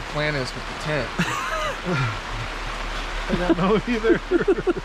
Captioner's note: chuckling; both laughing